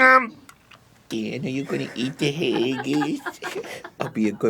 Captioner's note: arin in a wittle baby voice